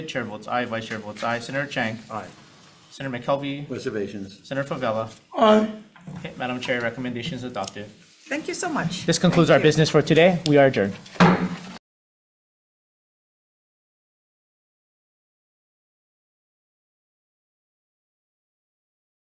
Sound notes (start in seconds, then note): 11.1 poi pounder taps